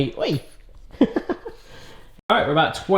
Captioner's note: laughs